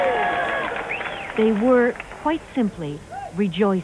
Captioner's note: cheering